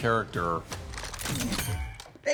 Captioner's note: gun cocks